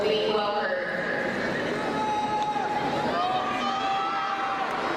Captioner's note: crowd cheering